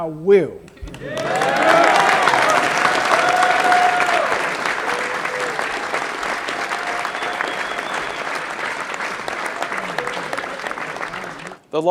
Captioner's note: applause